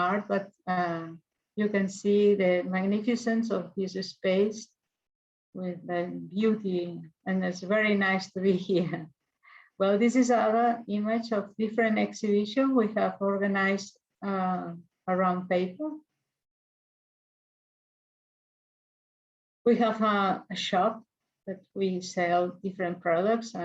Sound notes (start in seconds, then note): 8.8 chuckles